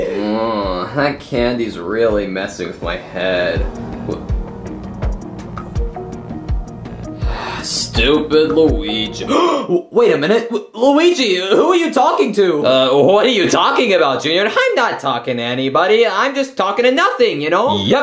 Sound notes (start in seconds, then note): 5.0 suspenseful music; 6.9 Junior sighing; 9.2 gasping